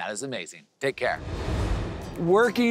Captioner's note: air whooshing